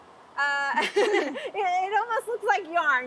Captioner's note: both laughing